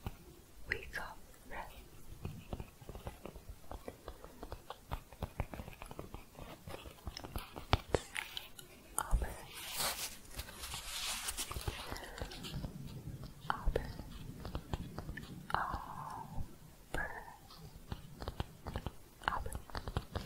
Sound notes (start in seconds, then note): 3.7 tapping; 10.2 shuffling; 19.2 shuffling, then tapping